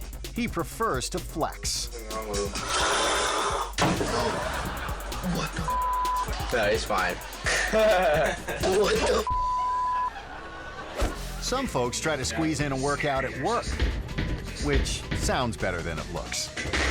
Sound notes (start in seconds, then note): 2.2 athlete gasping; 3.8 athlete crashing; 3.8 audience laughing; 5.6 beep; 6.9 audience laughing; 7.9 friends laughing; 8.6 audience laughing; 11.0 air whoosh